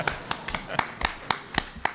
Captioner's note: applause